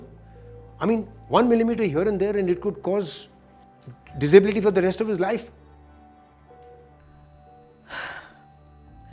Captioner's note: Prof. Sulochana sighs